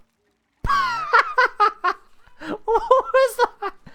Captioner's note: wheezing laugh